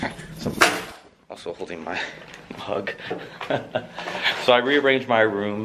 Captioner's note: laughing